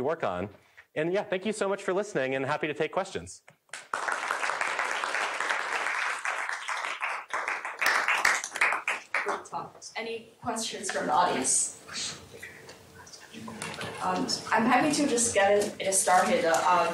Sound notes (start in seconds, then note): 3.7 applause